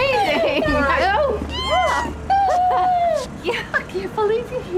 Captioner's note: ellie squealing